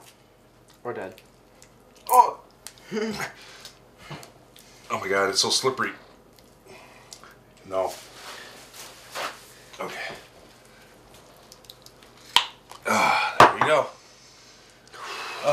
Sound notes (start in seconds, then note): none